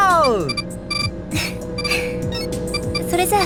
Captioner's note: chuckle